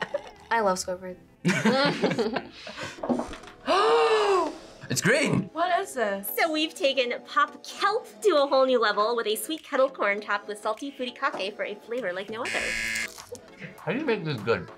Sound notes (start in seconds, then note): 0.0 laughs; 1.4 both laugh; 3.6 gasps; 12.4 buzzer